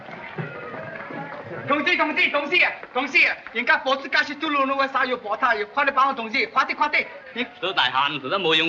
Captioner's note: speaks chinese